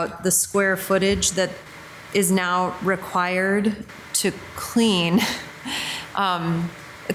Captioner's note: laughs